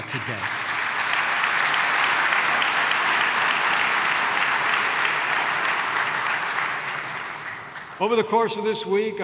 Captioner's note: applause